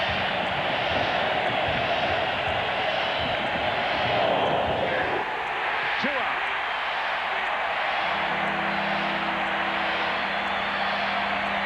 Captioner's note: cheering